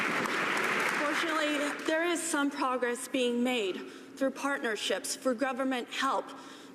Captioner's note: cheers and applause